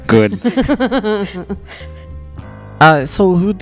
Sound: laugh

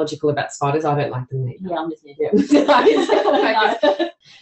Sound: laughter

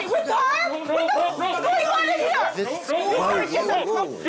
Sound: yelling

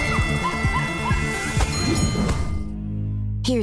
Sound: music playing, screaming; dinging

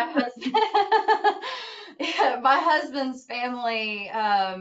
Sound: laughing

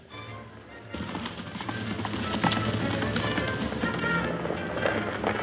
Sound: horses galloping

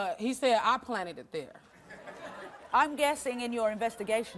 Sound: audience laughing

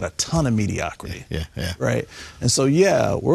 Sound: laughing

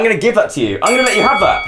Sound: ding ding

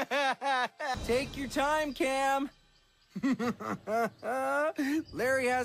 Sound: evil laughter and deep breath

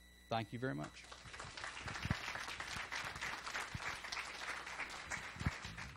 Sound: applause

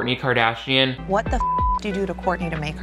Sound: beep

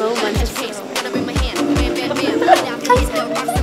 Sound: ta-da

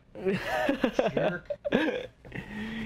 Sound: laughs

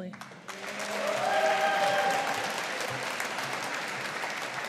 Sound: audience applauding

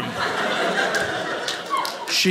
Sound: audience laughing

